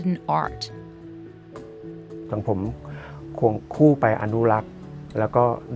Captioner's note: speaking foreign language